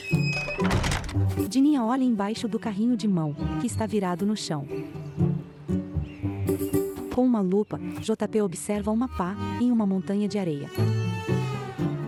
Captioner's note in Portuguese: Porta rangendo e fechando; Pássaros